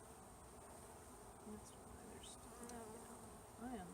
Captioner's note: mutter